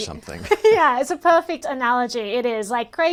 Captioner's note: laughs